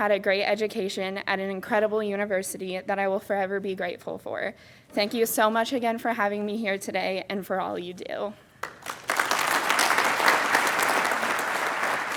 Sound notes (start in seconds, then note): 8.6 applauding